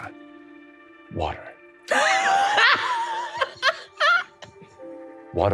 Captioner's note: laughing